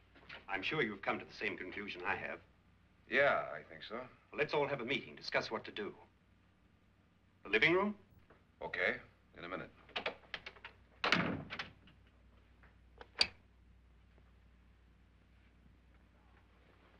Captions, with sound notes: - I'm sure you've come to the same conclusion I have. - Yeah, I think so. - Let's all have a meeting to discuss what to do. The living room? - OK. In a minute. (door closes) (door lock clicks)